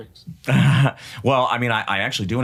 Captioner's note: chuckles